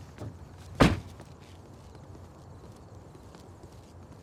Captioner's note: door thuds